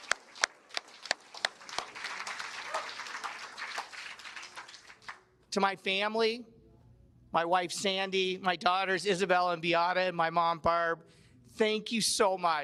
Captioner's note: cheers and Applause